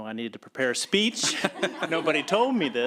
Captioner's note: laughter